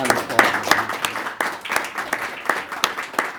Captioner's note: applause